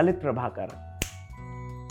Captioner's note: snap